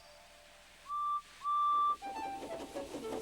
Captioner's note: toots